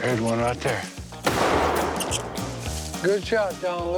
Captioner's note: gun shot